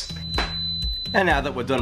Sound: cooker beeping

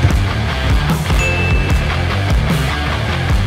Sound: upbeat music; ding; upbeat music

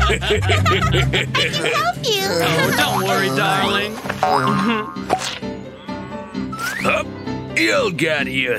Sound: loud grunting

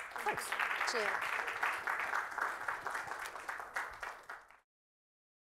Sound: students applauding

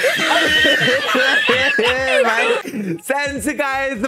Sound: in fits of laughter

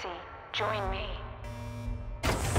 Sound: alarms sound; airlocks open

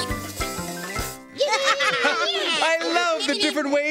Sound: all giggling

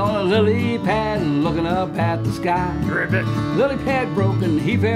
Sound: mimics frog croaking

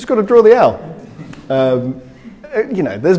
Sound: crowd chuckling

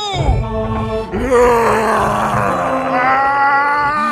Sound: monster roars; priest roars

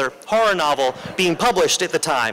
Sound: laughter

